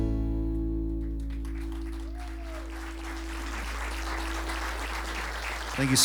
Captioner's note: applause